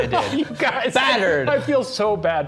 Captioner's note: laughing